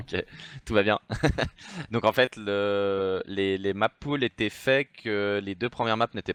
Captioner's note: laughs